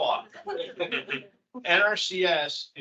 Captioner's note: attendee laughing